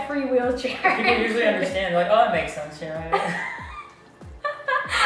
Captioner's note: dies laughing